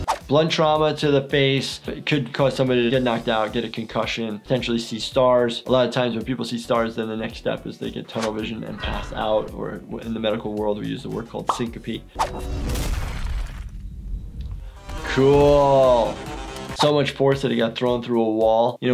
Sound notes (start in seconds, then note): 12.3 body thump smashing; 14.6 active music